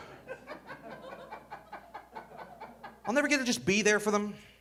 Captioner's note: audience laughing